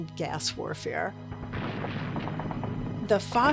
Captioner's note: explosions booming